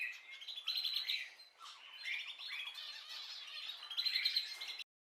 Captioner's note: birds singing